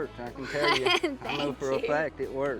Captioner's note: laughing